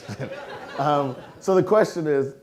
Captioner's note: audience laughing